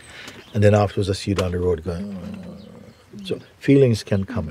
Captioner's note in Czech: sténá